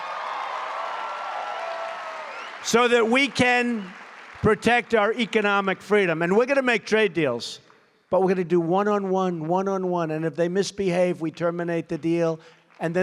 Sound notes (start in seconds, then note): 0.0 applause